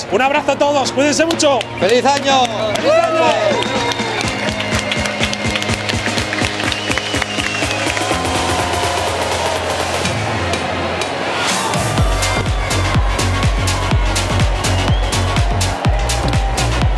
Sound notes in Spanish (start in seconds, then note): 3.7 gritan y aplauden; 7.7 Bullicio; 11.9 Música electrónica